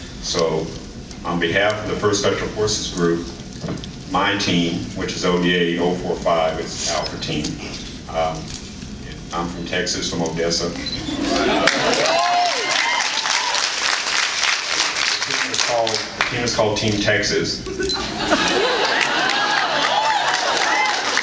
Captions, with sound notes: So on behalf of the First Special Forces Group, my team, which is ODA-045, it’s Alpha Team and I’m from Texas, from Odessa, [cheers] The team is called -- The team is called Team Texas. [laughs and cheers]